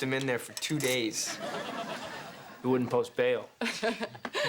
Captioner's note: laughs